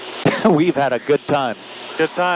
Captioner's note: laughs